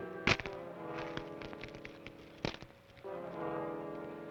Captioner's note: manacles clack